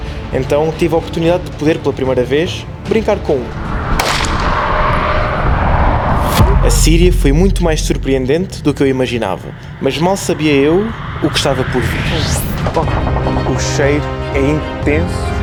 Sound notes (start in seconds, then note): 12.4 gunshooting